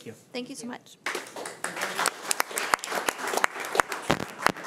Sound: crowd clapping

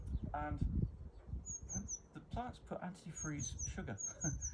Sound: chuckles

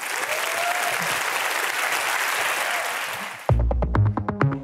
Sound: applause

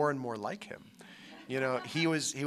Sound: laughter

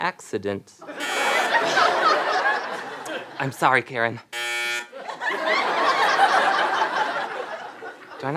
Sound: buzzing

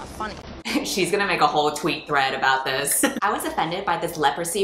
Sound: laughs

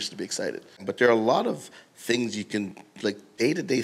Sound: none

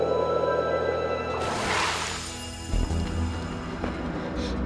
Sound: loud whoosh

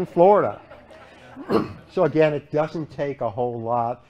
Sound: laughter

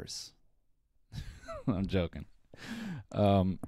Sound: laughs

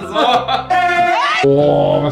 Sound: uncontrollable yelling

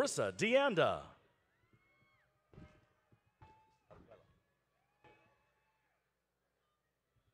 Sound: none

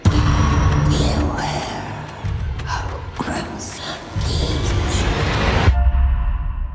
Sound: ghost whispering

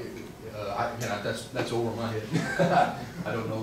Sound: laughing

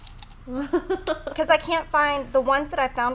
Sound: laughs

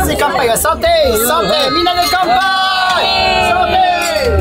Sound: cheers

